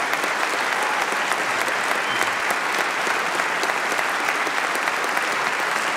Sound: applause

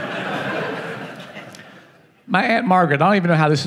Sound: laughing

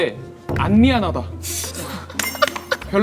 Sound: laughing

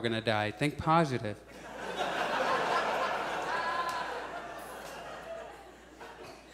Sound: audience laughs

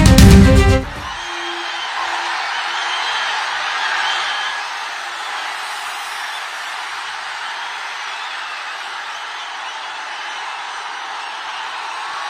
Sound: applause

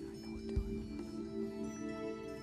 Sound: whispering

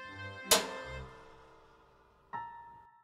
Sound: light switch clicks

